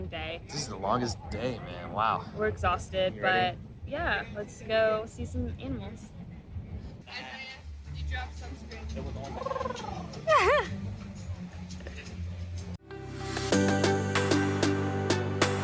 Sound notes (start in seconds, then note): 9.3 elephant whine; 10.2 laughs; 12.8 upbeat music